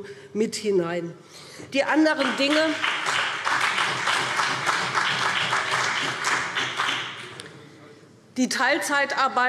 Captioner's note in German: Beifall BÜNDNIS 90/DIE GRÜNEN und vereinzelt CDU